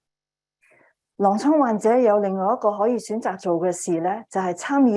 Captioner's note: speaking chinese